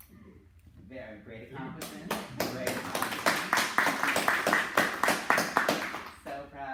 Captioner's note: clapping